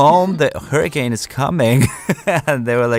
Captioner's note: laughs